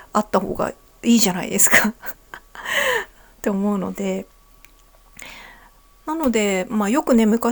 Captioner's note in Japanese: 笑い